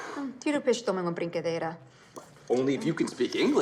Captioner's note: speaking in Portuguese